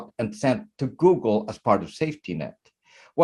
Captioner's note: none